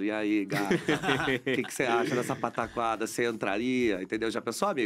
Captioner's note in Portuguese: risos